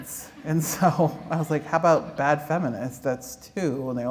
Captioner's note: laughter